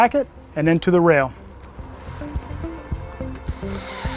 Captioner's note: drill whirring, no additional audio